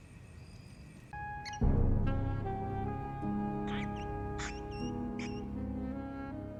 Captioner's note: rat squeaking